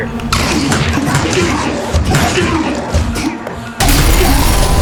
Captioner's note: groaning